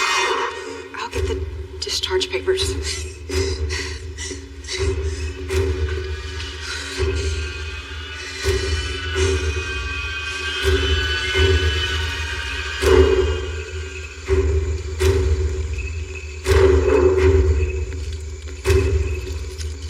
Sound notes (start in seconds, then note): 2.9 heavy breatathing; 5.6 tenense music